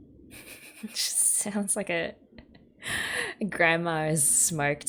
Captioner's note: laughs